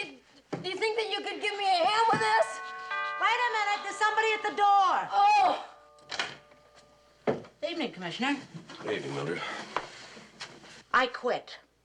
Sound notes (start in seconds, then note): 4.9 exclaims